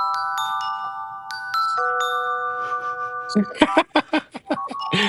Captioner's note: soft music; laughing